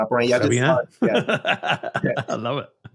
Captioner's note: chuckles